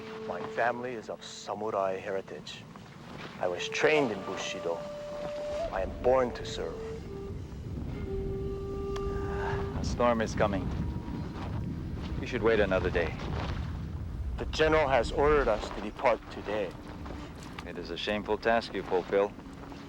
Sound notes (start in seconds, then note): 7.4 thunder rolling